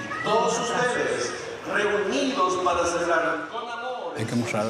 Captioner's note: Spanish spoken audio